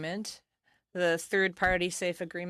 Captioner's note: speaking French